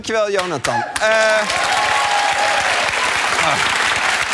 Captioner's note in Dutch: applaus